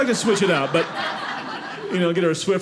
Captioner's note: audience laughing